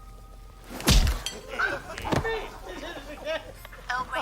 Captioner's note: laughter